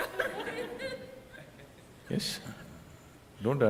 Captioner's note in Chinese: 聽眾笑聲